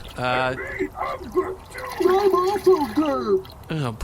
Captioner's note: splashing